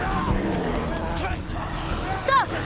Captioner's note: growling